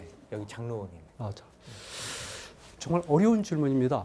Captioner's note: speaking in Korean